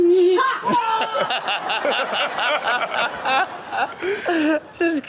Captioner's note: all laugh